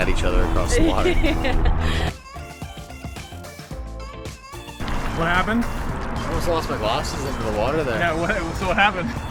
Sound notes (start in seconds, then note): 0.7 laughing; 2.0 chill techno music